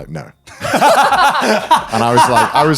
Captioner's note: laughing